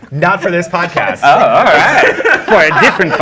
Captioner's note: laughing